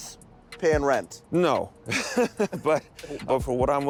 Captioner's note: both laugh